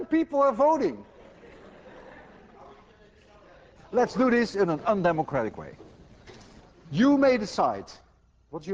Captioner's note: class laughs